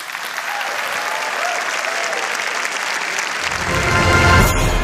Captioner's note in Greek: Χειροκρότημα